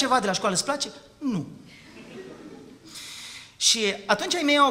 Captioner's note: laughter